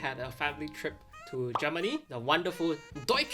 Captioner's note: graphic pops